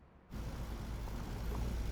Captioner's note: car engine running